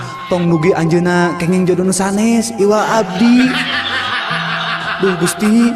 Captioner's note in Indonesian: tertawa; tertawa